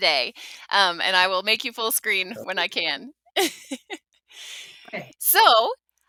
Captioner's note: laughs